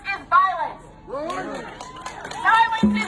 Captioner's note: audience cheering; audience applauding